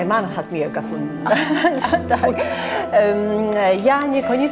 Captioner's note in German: deutsch